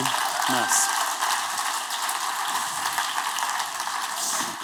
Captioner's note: applause